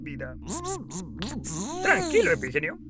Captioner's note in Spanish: Zumba asustado